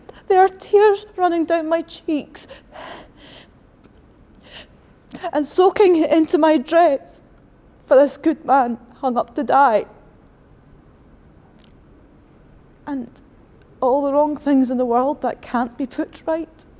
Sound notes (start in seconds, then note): 2.6 gasps